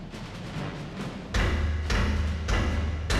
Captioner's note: heavy metallic thumping